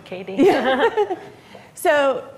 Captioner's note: laughs